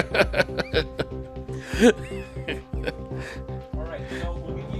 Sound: laughing

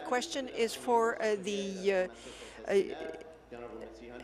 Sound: speaking in French

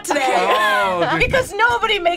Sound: laughs

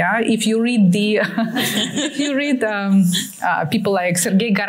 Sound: laughter

